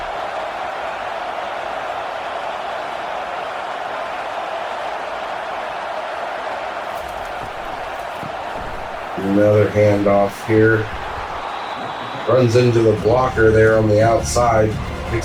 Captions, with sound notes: [Crowd Noises] Another hand off here. Runs into the blocker there on the outside.